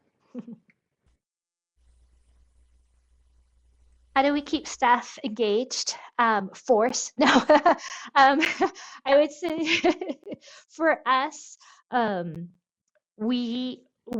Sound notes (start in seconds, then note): 0.4 chuckles; 7.2 laughs; 10.2 laughs